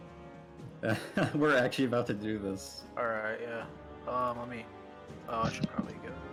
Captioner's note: laugh